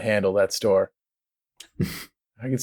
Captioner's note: laughter